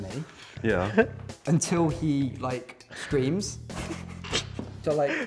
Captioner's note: laughter